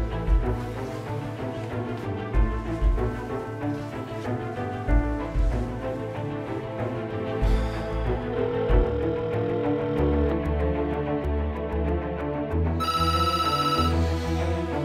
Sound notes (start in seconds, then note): 8.4 ringtone; 12.8 phone ringing